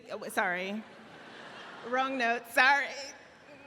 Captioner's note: laughing